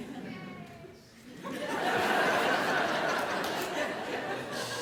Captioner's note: laughter